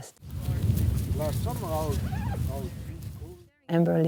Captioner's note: people chatting